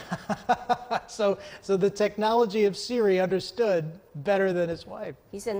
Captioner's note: laughs